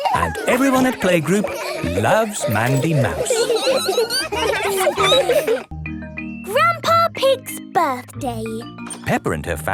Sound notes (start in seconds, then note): 3.4 laughter; 3.4 squeaking